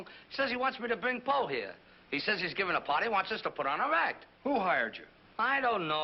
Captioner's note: none